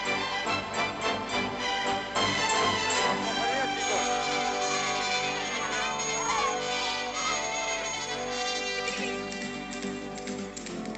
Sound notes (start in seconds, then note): 3.0 speaking in Spanish; 5.8 children chattering